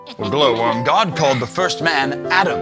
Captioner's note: exclamations